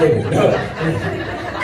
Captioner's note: laughter